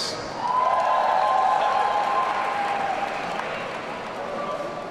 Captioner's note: audience cheering